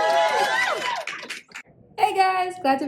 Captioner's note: cheers